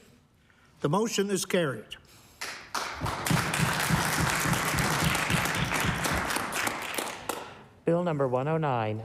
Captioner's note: applause